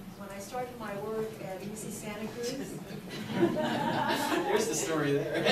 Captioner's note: audience laughs